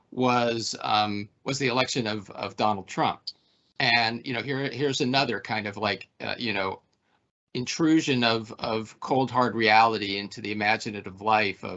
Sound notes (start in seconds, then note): none